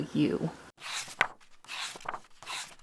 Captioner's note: pages turning